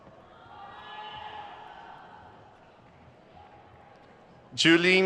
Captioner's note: crowd cheers